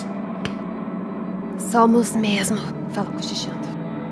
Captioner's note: whispering